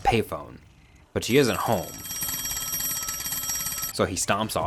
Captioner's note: phone ringing